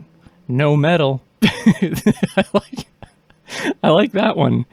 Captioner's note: starts laughing